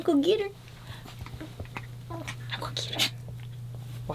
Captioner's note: dog playfully whining